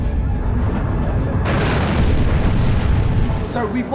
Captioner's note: wave crashing; explosion